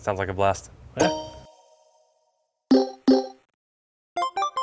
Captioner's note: playful beeping